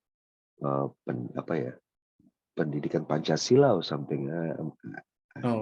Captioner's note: in Bahasa Indonesia